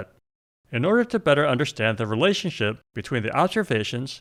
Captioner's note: none